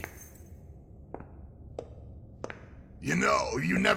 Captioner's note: footsteps